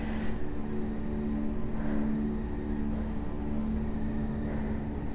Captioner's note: Steph breathing heavily